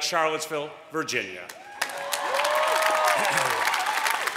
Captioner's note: applause